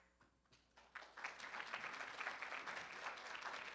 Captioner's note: room applauds